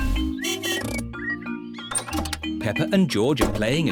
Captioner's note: honking